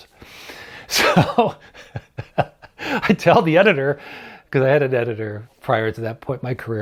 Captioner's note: chuckles